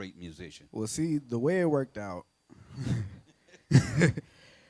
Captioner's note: laughs